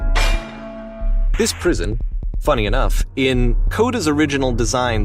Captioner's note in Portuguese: narrando em inglês